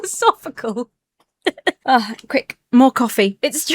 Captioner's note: laughs